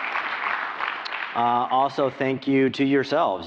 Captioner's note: applause